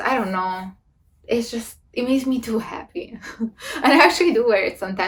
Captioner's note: laughs